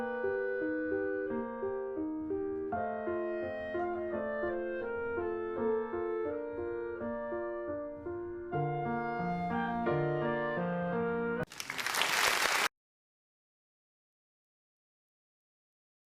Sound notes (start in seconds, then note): 3.7 classic music; 11.4 applause